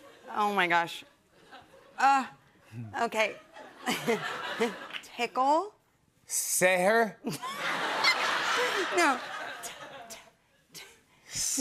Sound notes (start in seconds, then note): 3.8 chuckles; 7.2 laughter